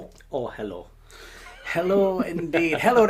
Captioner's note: laughing